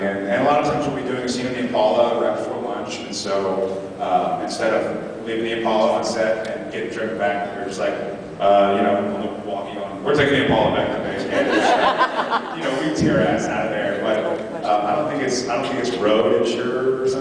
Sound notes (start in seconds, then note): 11.3 laughs